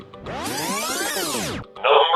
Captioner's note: electronic buzzing